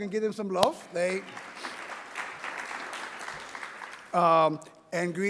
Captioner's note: people applauding